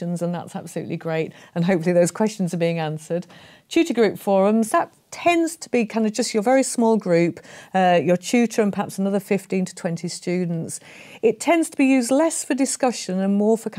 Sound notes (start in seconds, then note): none